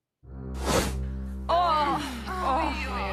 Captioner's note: all groaning